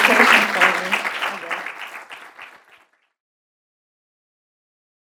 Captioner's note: attendees clapping